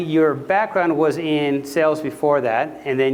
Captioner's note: none